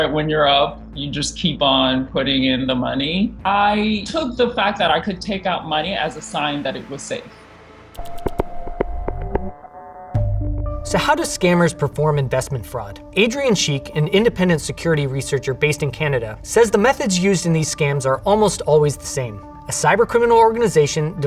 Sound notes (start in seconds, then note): 7.8 inquisitive music; 7.8 transition whirring